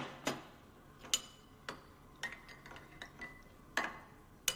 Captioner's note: cutlery clinks